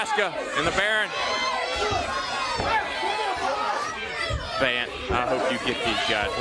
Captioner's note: crowd chatter